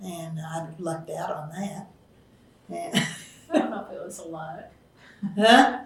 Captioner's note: laughs